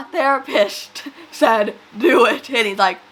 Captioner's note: laughs